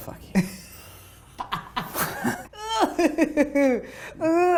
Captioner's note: laughing